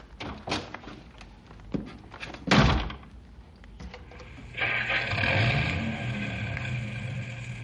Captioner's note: engine revving